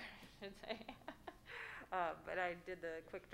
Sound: laughing

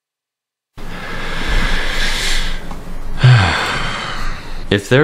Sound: breathes in extreme disappointment

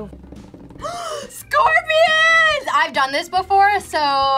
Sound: gasps

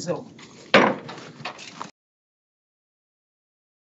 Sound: gavel taps

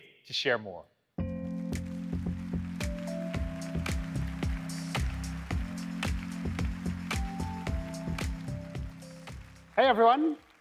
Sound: music playing and applause

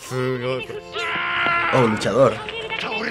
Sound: wrestler yells; speaks Japanese; woman sings jingle

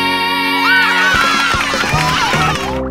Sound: cheering

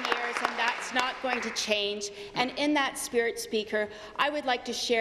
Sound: applause

